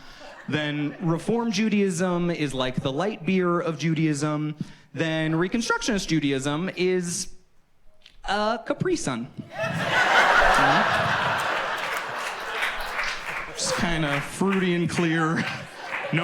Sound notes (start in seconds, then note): 9.5 audience laughs and claps